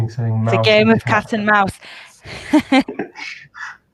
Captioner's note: laughs